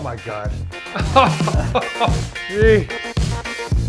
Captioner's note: laughing